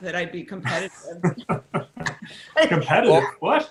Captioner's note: laughter